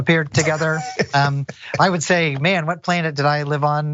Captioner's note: laugh